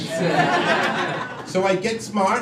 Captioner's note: crowd laughing